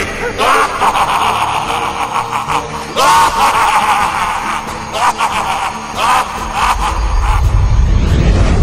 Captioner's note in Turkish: Gülme sesi